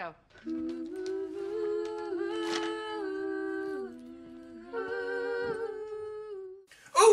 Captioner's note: humming